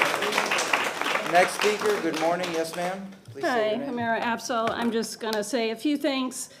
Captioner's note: applause